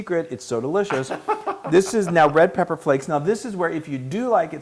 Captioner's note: laugh